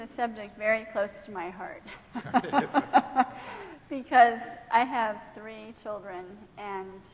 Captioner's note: laughing